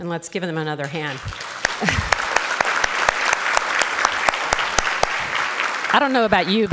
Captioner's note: applause